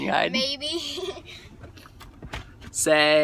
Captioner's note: chuckle